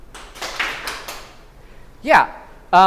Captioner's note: clapping